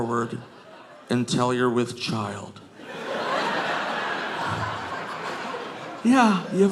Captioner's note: audience laughing